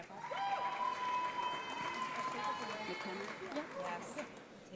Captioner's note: audience applauds